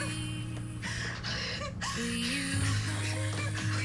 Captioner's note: sobbing